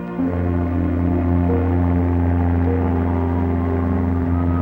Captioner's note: ship horn honking